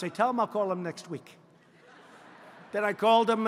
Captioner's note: laughter